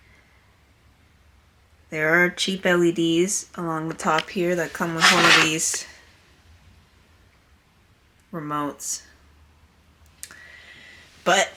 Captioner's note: shuffling sounds